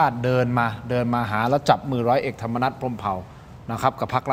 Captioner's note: none